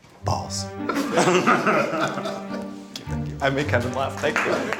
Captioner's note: laughs